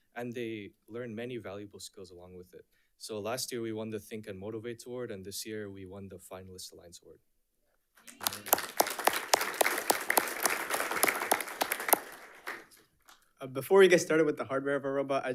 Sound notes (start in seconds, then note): 8.0 audience applauding